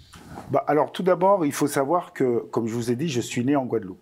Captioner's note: non-english speech